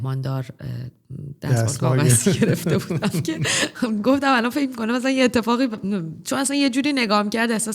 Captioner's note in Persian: خنده